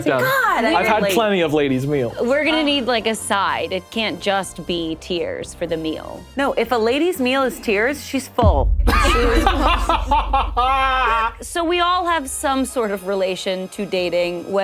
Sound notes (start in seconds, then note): 8.4 ominous music; 8.9 laughs